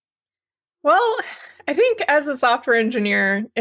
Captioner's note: sigh